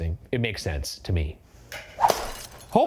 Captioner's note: baton whooshing